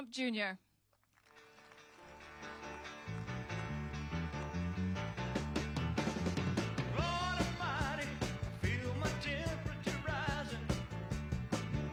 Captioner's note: applause